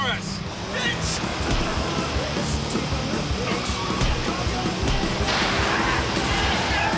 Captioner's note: tires screeching; intense rock music